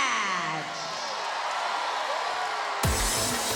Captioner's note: applause